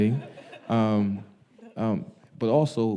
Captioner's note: audience laughing